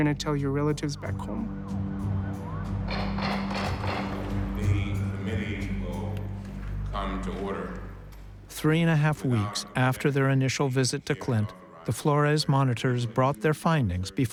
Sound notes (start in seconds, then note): 4.4 gavel pounding